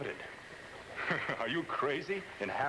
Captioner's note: chuckles